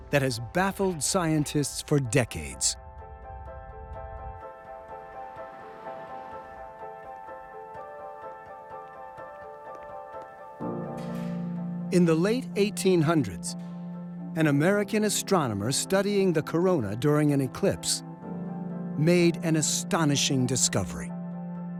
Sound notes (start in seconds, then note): none